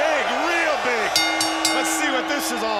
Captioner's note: bell ringing